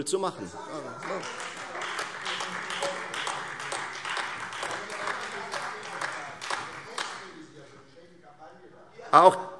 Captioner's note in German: Beifall - Zurufe